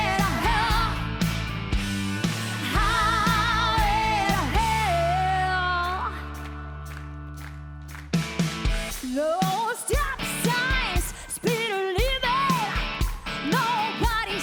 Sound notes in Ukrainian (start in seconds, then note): 4.1 оплески